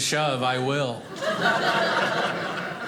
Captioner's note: audience laughing